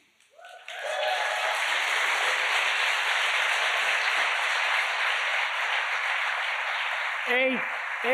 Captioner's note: applause